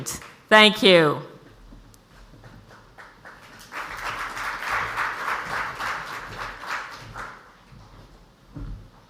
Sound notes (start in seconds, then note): 2.7 audience applauds